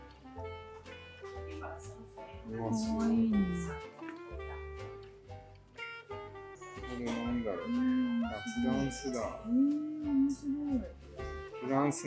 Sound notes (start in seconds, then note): 9.1 laughed at that one